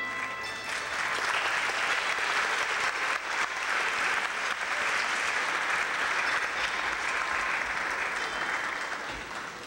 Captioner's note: clapping